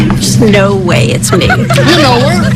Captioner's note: friends laughing